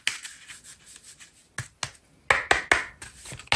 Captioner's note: drawing cards